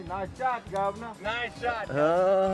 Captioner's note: laughs